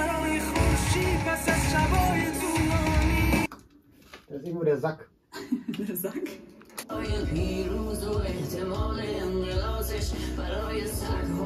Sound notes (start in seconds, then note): 5.5 laughs